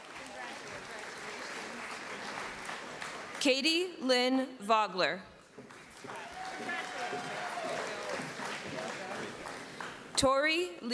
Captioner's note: applause